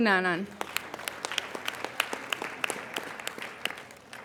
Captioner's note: applauding